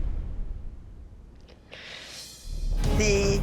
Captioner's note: inhales